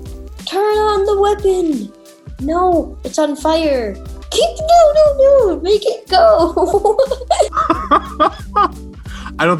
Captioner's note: laughs